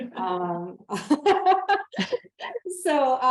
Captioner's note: laughter